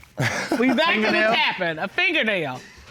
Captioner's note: laughs